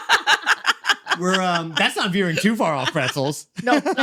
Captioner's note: laughing